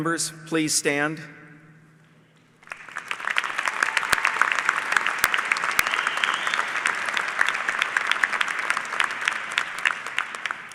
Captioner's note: applause